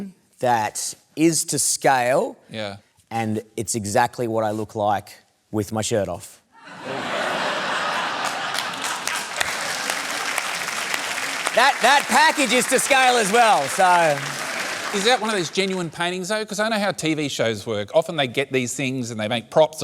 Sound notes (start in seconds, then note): 6.6 laughter; 7.8 applause